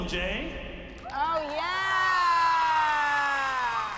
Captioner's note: applause and cheering